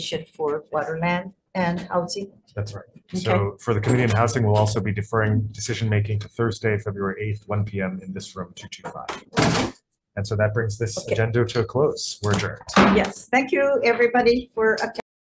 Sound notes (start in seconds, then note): 12.7 gavel bangs